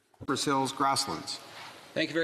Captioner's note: speaking in French